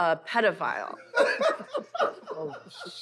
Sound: laughter

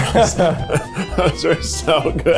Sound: both laughing

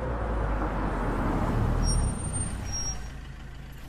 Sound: vehicle screeches

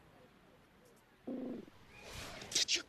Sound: squawks

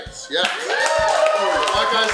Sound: cheering & Clapping

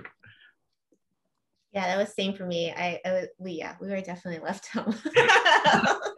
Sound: laughs

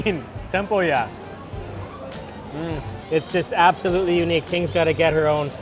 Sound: patrons chatter

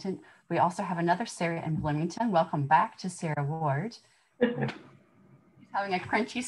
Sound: laughter

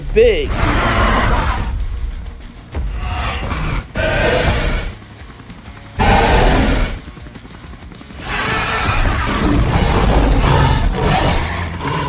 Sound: growling and Stomping Sounds

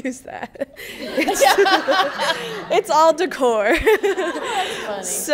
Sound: laughing

